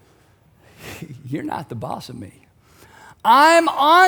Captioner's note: chuckles